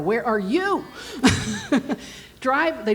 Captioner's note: laughs